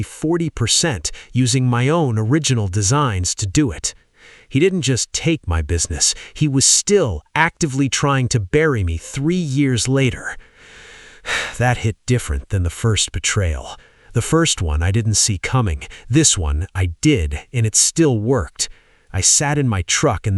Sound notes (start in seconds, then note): 10.4 shaky breath